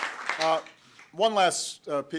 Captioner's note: applause